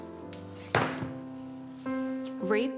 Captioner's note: book thudding